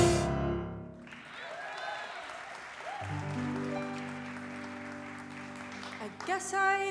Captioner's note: audience applause